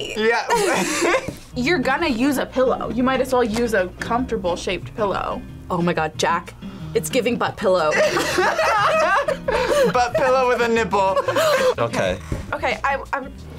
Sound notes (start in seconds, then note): 0.3 both laugh; 7.9 both laugh; 11.3 gasps